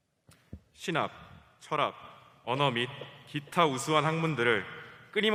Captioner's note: speaking foreign language